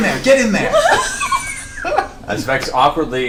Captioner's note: all laugh